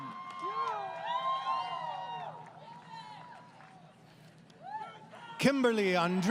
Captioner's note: crowd Cheering